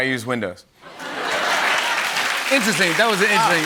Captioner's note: laughter and applause